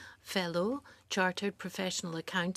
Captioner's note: speaking French